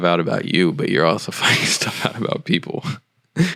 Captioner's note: laughing